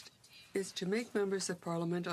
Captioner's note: speaking in french